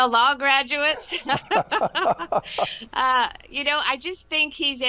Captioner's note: both laugh